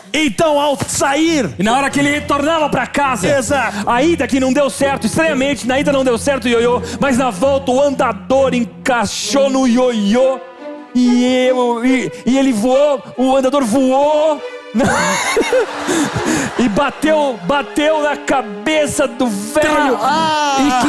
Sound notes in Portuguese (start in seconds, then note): 14.8 risos